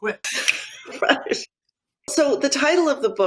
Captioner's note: laughs